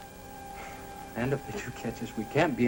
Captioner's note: sighs